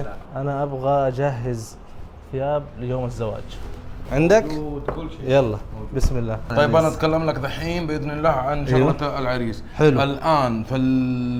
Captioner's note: Arabic